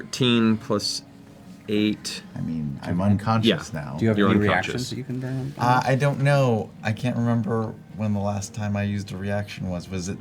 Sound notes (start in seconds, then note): none